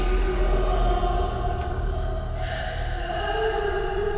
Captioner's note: woman sobbing